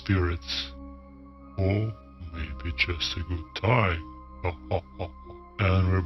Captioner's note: laughs eerily